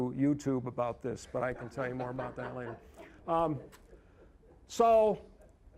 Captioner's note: audience laughing